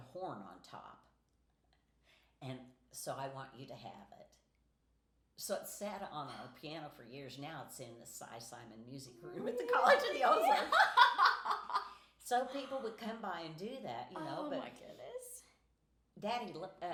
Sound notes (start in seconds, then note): 11.2 laughing